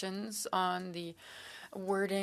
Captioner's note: speaking French